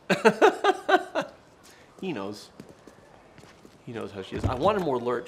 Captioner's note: laughing